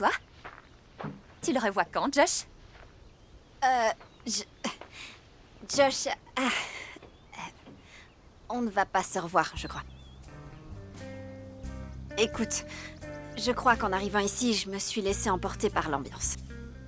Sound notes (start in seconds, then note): 6.3 chuckling